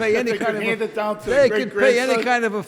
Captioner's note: laughs